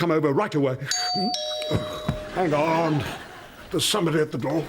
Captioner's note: doorbell